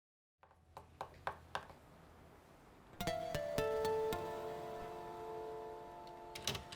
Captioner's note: cigarette taps; soft tense music